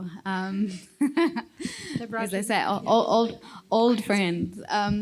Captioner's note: chuckles